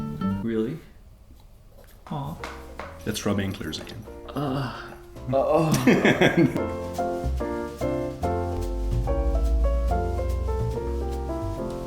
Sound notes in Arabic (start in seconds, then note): 0.1 موسيقى رومانسية; 4.2 أصوات أنين; 5.4 يضحك; 7.0 موسيقى بيانو